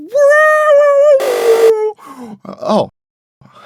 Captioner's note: buzzer